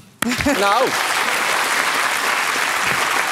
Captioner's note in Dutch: applaus